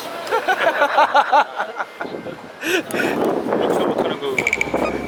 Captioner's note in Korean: 웃음